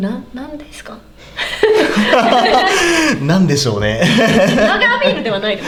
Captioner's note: laughs